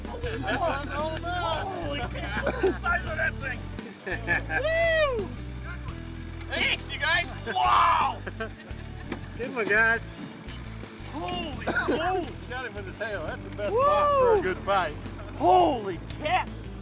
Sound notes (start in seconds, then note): 0.0 laughing; 7.4 laughing